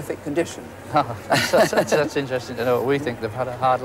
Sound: laughs

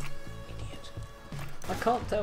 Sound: quietly

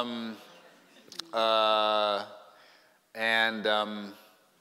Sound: chuckling

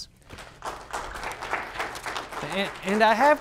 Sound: audience applauds

